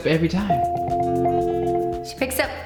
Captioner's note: ringing